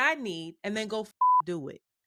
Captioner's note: beep